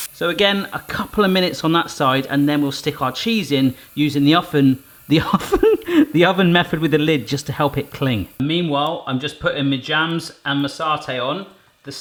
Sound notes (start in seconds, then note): 5.1 laughing